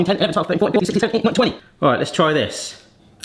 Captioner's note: counts in high speed